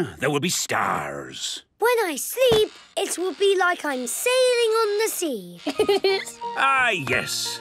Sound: laughing

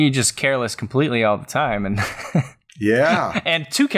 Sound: laughs

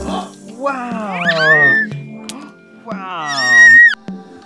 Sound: squealing

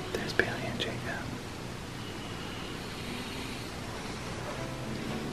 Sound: whispering

